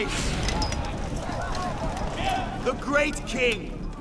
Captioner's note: indistinct chatter